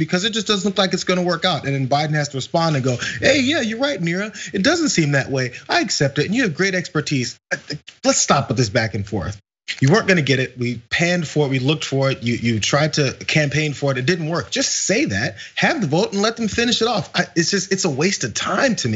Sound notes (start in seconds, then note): 7.5 laugh